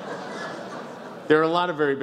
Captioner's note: some laughs